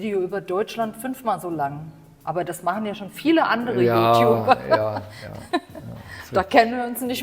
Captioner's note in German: gelächter